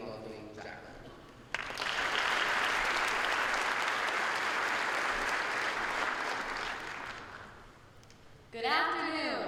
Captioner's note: applause